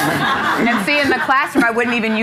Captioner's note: audience laughing